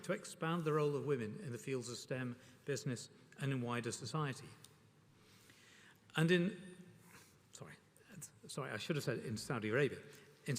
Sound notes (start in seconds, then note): none